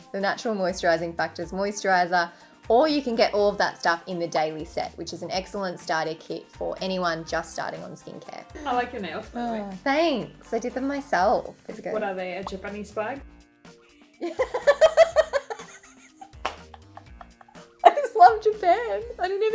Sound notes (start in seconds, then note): 14.2 laughing